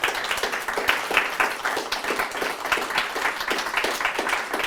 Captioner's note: applause